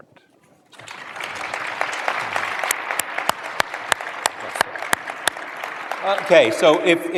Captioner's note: applause